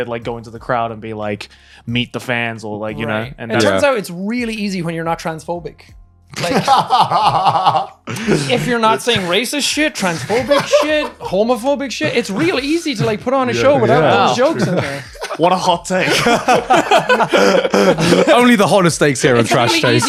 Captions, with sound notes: they'd like go into the crowd and be like meet the fans or like... - It turns out it's really easy when you're not transphobic. (laughing) - If you're not saying racist shit, transphobic shit, homophobic shit, it's real easy to put on a show without any jokes in there. - What a hot take. - Only the hottest stakes here in "Trash Taste".